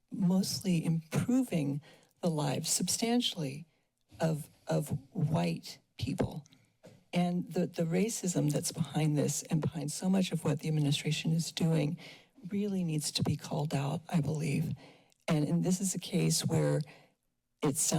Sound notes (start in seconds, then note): none